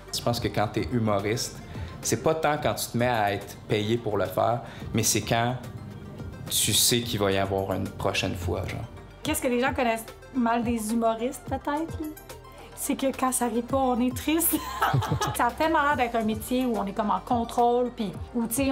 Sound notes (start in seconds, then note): 14.6 laughs